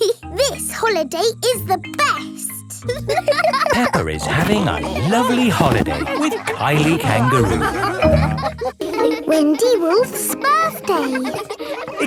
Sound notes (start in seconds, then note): 0.2 giggles; 3.1 laughing; 8.0 all laughing; 11.8 kids laughing